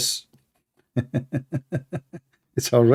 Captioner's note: Ketawa